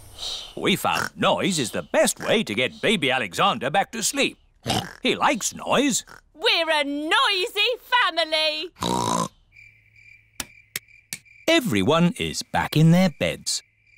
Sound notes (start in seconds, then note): 4.6 oinks